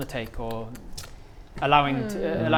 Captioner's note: tut tut